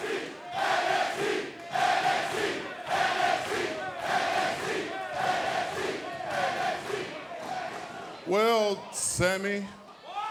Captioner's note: fans chanting